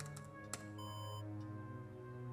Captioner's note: alarm